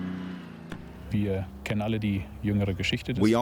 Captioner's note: speaking German